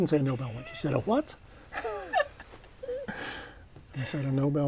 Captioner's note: laughter